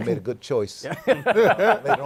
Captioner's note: laughter